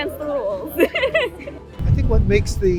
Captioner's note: laughing